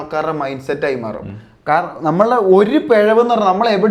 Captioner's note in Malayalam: തൊണ്ട ശരിയാക്കുന്നു